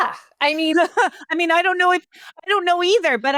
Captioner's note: laughs